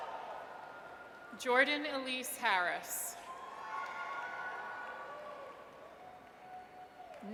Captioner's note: audience cheers; audience cheers